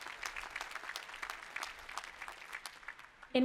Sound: applause

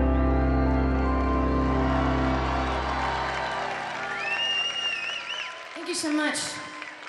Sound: audience applauding; audience cheering

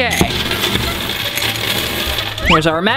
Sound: coins hitting desk

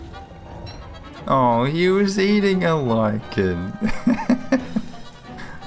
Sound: intense music; laughs

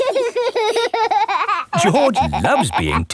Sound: laughing

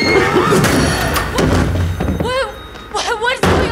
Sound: person screams; door bangs

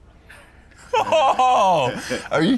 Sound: surprised noises

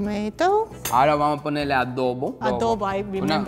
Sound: speaking in foreign language

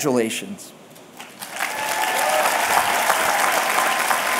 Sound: applause

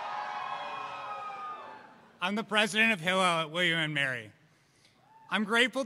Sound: cheers

